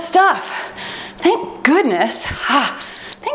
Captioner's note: timer beeps